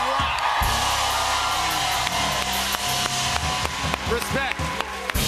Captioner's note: cheers and applause